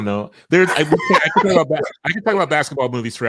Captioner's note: laughing